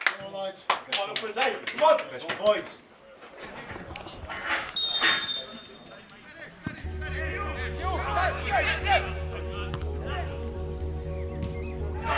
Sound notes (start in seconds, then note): 4.7 referees whistle